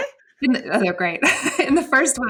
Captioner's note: laughs